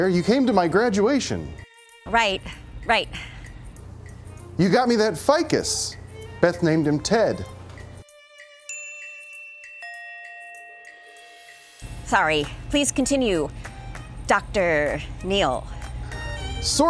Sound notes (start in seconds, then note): 8.6 bells chiming